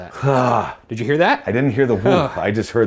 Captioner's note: groans